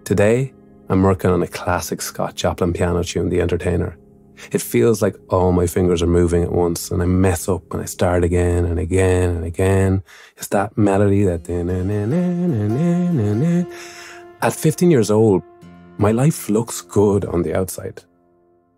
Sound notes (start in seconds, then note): 11.3 hums